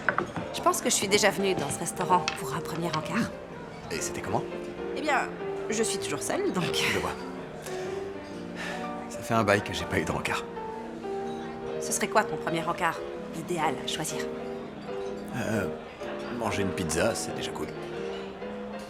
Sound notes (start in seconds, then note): 7.6 sighs